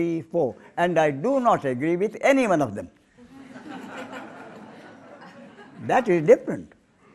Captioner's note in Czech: smích